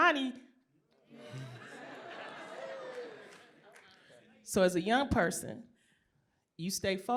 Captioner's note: laughter